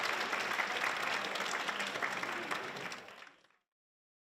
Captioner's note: applause